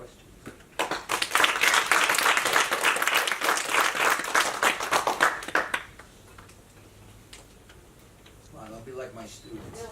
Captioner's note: applause